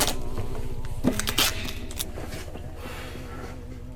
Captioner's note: tape tearing